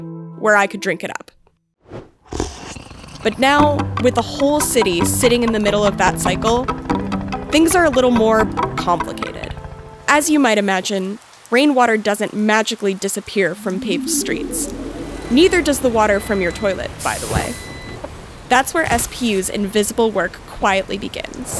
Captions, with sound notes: where I could drink it up. [slurping sound] [uptempo music] But now, with the whole city sitting in the middle of that cycle, things are a little more... complicated. As you might imagine, Rainwater doesn't magically disappear from paved streets. Neither does the water from your toilet, by the way. That’s where SPU’s invisible work quietly begins.